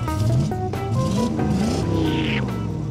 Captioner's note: engine revving